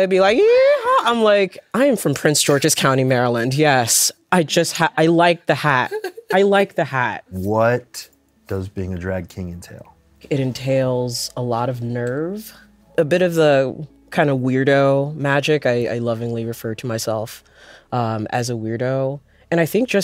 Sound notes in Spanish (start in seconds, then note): 5.7 ríe